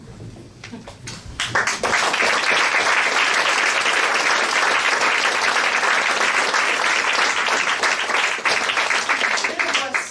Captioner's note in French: applaudissements